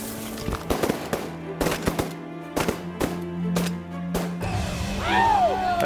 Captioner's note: gun shots